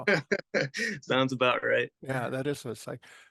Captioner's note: laugh